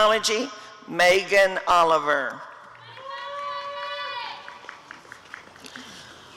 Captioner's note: applause and cheering